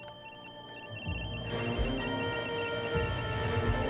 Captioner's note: alarm